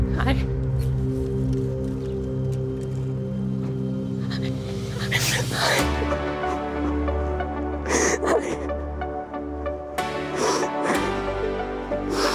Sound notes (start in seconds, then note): 4.5 sighing voice trembles; 6.6 reflective music